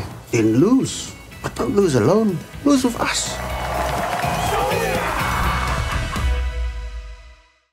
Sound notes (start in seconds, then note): 4.5 chanting